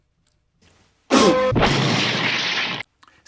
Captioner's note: crash